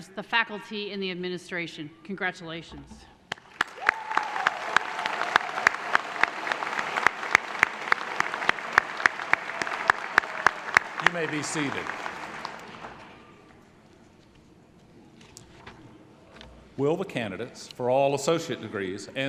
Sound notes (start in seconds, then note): 3.6 applause